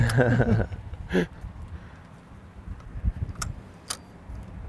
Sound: both laughing

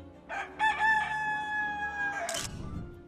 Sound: rooster crowing; camera shooting

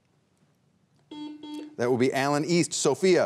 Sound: buzzer beeps twice

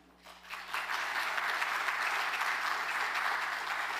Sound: applause

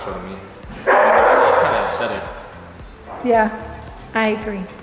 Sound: dogs barking

